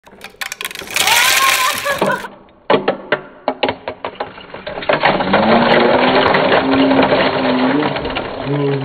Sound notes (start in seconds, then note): 0.0 plastic pattering; 1.5 voiceover; 2.5 slow motion plastic pattering